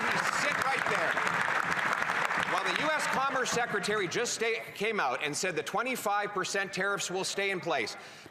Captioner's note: applause